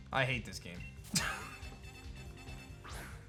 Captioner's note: chuckles